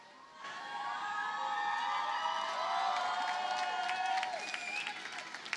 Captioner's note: audience cheers and applauds